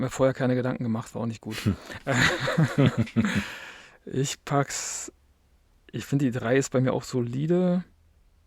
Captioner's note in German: gelächter